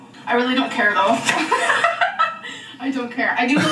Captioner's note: laughs